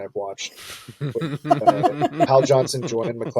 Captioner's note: laughing